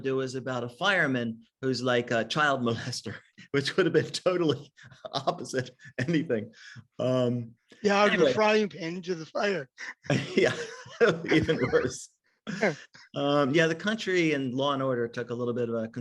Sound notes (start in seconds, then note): 9.8 chuckles